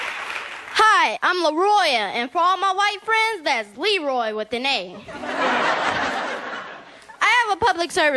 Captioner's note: audience Laughter